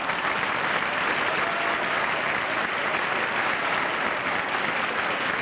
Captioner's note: applause